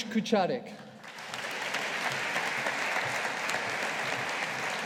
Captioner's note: audience applauding